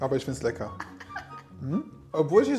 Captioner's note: laughing